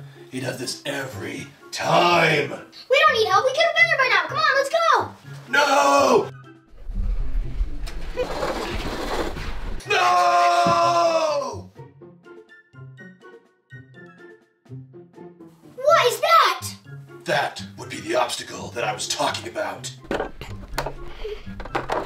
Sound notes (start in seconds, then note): 8.0 toy Car Wheels Rolling; 11.8 playful Music